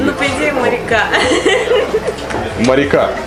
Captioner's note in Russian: смех